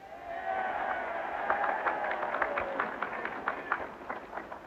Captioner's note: audience cheering